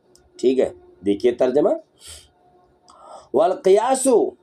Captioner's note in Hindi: नाक से की जाने वाली आवाज़